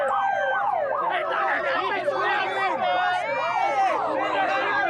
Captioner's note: siren wails